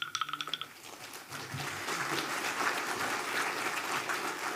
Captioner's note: audience clapping